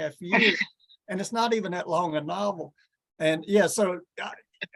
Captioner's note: laughs